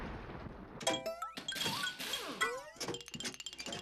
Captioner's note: metallic clanging